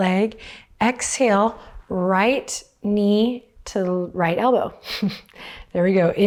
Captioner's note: chuckles